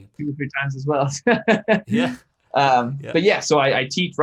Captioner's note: laughs